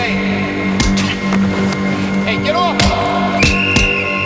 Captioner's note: blows whistle